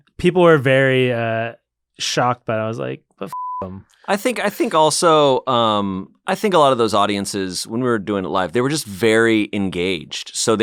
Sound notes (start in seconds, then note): 3.3 beep